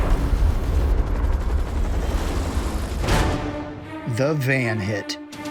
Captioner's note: helicopter whirring